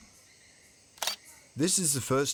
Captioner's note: shutter clicks